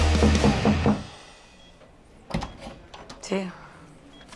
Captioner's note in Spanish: Toques en la puerta